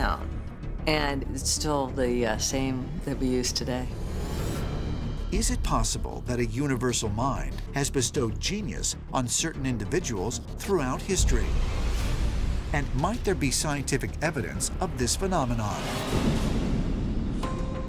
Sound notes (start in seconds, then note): 15.7 explosion; 15.9 suspenseful music